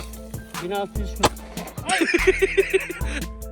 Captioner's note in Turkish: torpil patlıyor